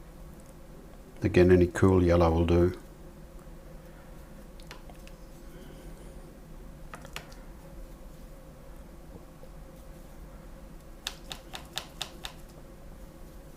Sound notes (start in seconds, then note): 3.0 silence